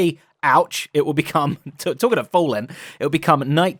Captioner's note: chuckles